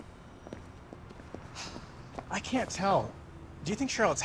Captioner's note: sighs